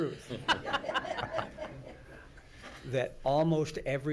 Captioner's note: everyone laughs